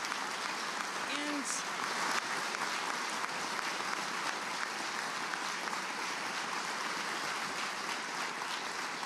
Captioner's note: applause